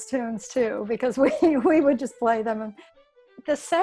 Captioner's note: laughs